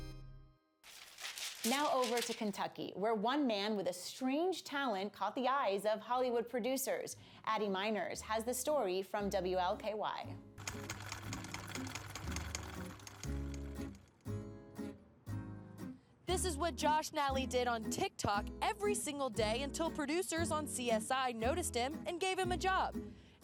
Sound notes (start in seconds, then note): 0.8 paper shreds; 10.6 typewriter keys clack; 13.2 upbeat instrumental music